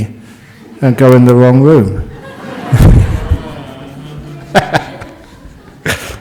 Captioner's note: laughter